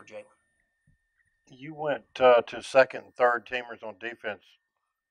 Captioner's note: voiceover